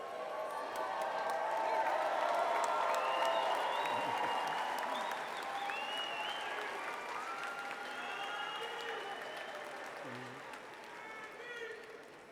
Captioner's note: cheering and applause